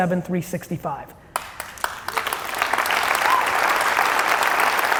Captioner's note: audience applauding